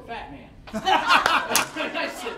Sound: all laughing

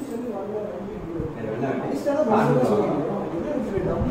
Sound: people chatting indistinctly

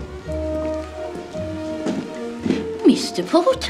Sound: footsteps

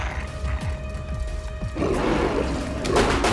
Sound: horror music; wolf growling; pistol banging

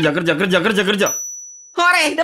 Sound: ting!

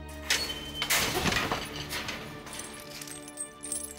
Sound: gate clattering

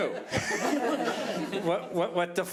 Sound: audience laughing

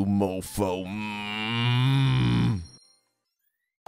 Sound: angry noises

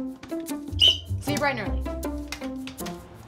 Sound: whistle blows

